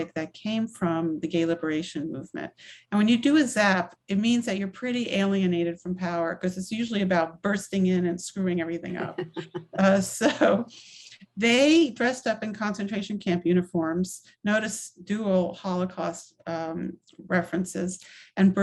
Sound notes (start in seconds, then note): 8.8 laughs